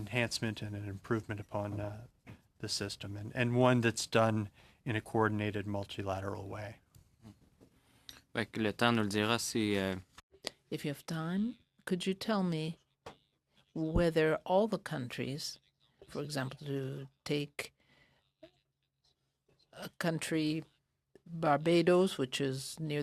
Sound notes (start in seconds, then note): 15.5 speaking French